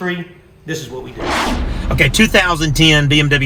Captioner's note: intense whooshing